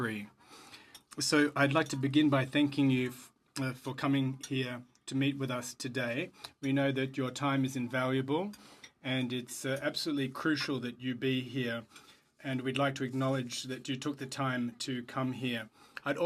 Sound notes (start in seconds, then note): 2.0 speaking French